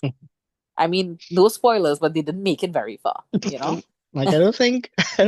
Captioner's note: laughs